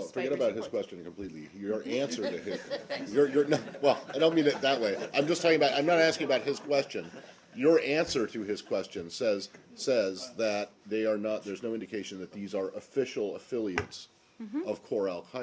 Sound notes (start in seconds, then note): 2.0 laughter